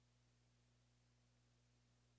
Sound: none

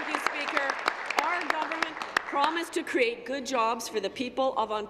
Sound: applause

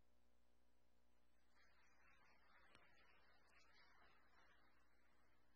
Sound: audience applauding

